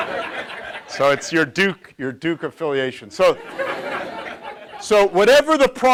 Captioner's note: audience laughs; audience laughs